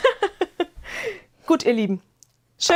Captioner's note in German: gelächter